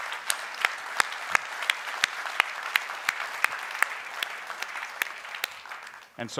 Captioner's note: applause